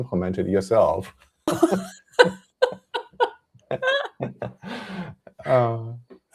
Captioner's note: laughter